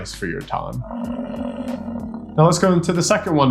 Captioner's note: buffalo grunting